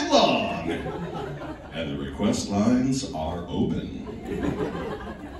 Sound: laughing

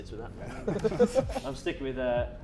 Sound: Sidemen laughing

